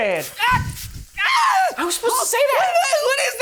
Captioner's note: person screams